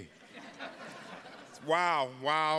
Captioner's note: attendees laughing